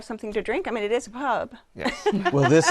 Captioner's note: laughs